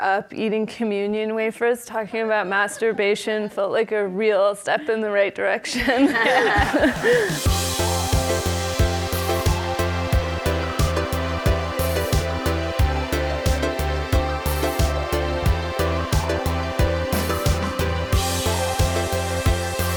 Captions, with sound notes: eating communion wafers, talking about masturbation felt like a real step in the right direction. (all laugh) (light electronic music)